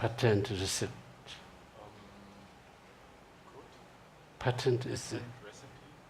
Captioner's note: speaking in foreign language